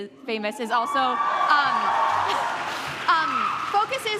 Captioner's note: audience cheers